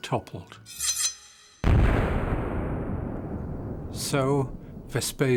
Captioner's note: sword ringing; sculpture banging